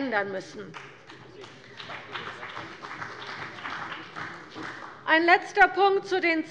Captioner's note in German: Beifall bei der CDU und dem BÜNDNIS 90/DIE GRÜNEN